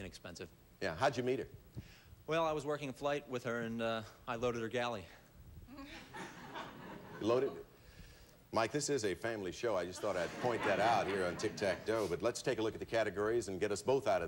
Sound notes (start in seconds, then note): 6.0 audience laughing; 11.7 audience laughing